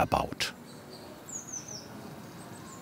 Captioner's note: birds chirping